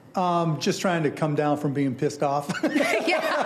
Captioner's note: laughing